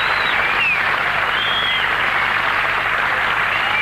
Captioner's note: audience cheering